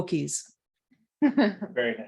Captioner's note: laughter